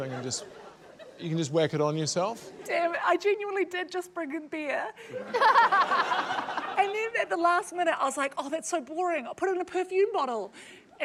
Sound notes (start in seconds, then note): 5.1 laughter